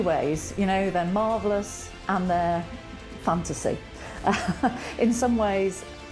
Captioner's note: chuckles